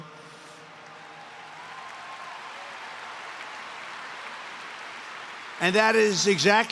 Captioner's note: applause